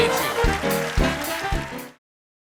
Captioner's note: applause